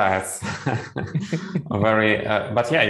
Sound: laughs

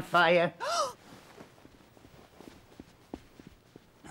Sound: gasps

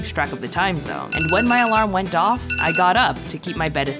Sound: alarm beeping

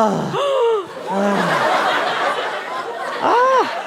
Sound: gasp

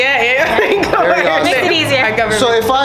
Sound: laughs

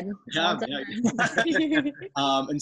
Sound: laughing

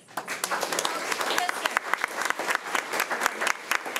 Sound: crowd clapping

